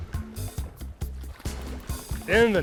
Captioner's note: fish splashing